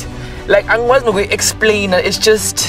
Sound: speaking in foreign language

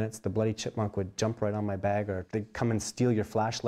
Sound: voiceover

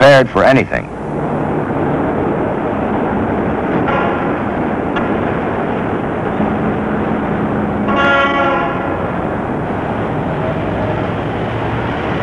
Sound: sounds of autos on the road, honking, car door slams

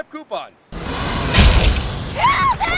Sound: roar / chomp

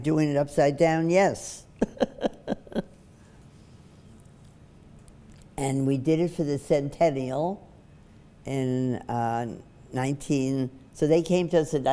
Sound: laughs

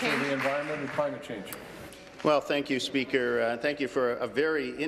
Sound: applause

